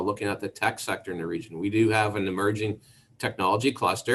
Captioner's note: none